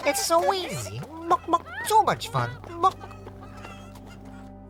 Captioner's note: chicken clucking; solemn music